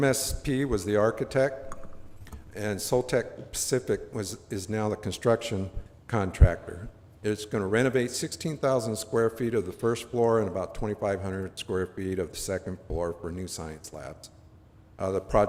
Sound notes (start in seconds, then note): none